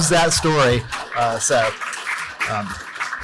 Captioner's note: applause